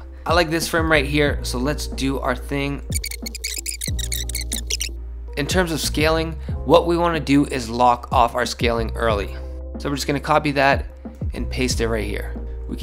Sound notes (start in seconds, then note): 2.9 electronic squeaking